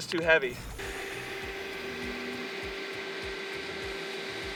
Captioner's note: engine whirring